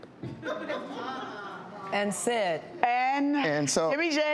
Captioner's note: audience laughs